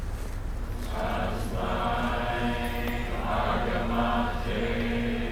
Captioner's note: chanting in foreign language